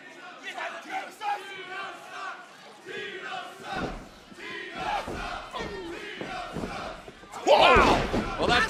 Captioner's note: crowd cheering